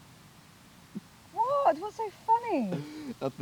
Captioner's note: Dean chuckles